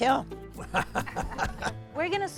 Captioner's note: laughing